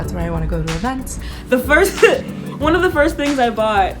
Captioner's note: laughs